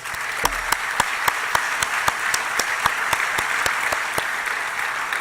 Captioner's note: applause